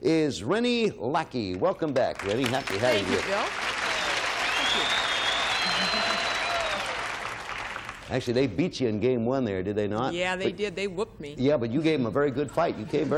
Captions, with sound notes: Our solo player is Renee Lackey. -Welcome back, Renee. Happy to have you here. -Thank you, Bill. -(whistling and applauding) -Actually they beat you in game one, did they not? -Yeah, they did. They whooped me.